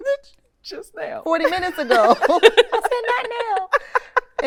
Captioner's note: laughing